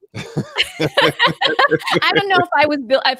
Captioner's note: laughs